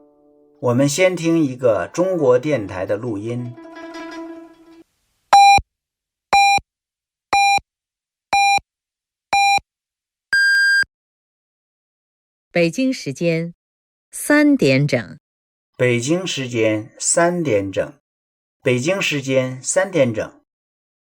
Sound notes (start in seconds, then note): 5.1 beep